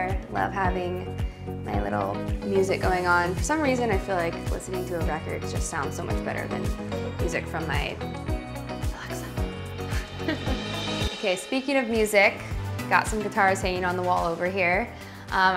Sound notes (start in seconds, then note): 8.6 whispers; 9.6 laughs